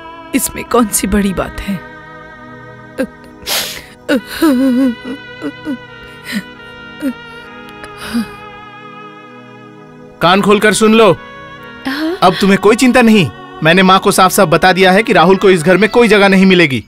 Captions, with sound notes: It's not a big deal [Crying] Listen, now you don't worry. I have told my mother that Rahul will not be allowed to stay here.